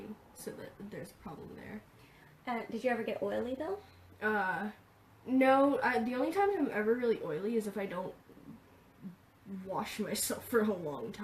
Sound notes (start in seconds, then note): none